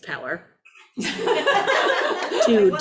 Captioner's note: audience laughs